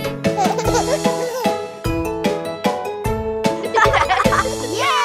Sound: baby giggling; children laughing

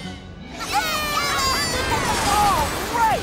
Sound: cheering

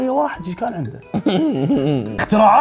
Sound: laughs

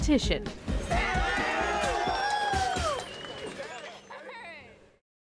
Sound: cheering

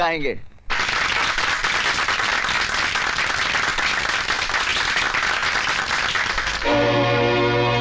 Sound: applauding

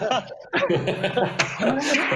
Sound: laughing

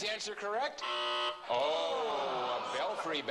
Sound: buzz

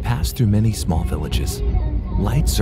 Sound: none

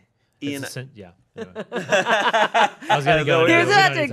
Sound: all laughing

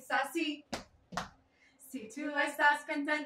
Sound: stomp; sing in Spanish

